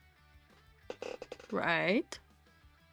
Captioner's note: chair noises!!